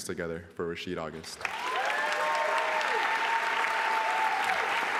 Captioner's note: applause